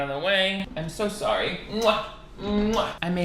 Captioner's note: kissing